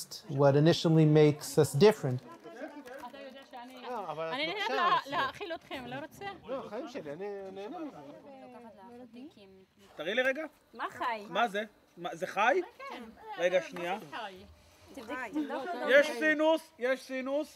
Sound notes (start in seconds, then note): 3.5 family speak foreign language